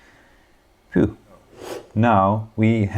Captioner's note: whew